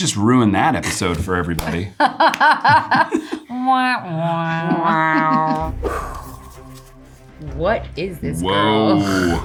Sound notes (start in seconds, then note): 2.0 Eiza and Natalie laughing; 3.6 Natalie and Eiza trumpeting